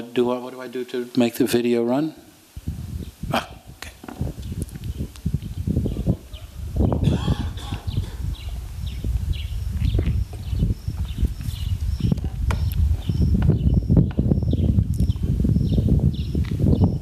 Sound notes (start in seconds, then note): 5.0 crickets chirping and wind blowing